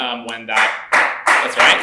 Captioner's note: applause